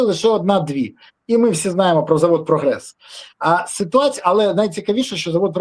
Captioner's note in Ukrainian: сопіння